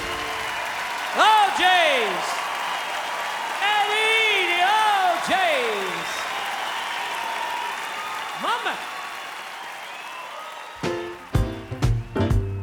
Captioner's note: cheering and applause